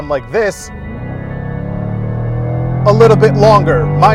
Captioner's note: engine revving